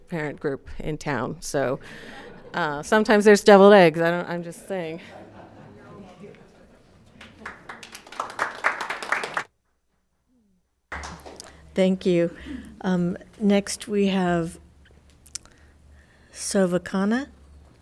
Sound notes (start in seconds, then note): 4.4 audience laughing; 7.0 audience applauding